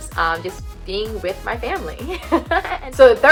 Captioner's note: laughs